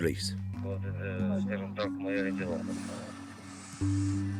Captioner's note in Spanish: Audio hablado en ucraniano